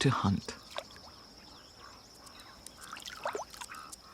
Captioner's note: birds calling in background